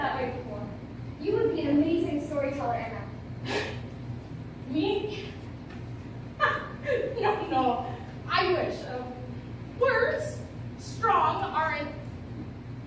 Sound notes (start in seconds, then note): 3.4 scoffing; 6.4 laughs